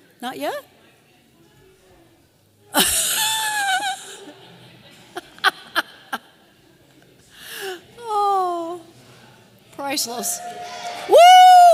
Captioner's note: laughter; audience cheers